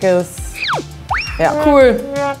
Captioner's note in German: Comicgeräusche